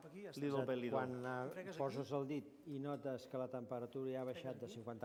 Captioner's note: non-english speech